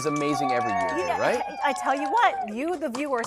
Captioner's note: kids cheer